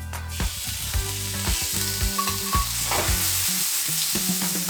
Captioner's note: gizzards sizzling